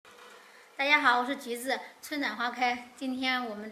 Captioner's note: Mandarin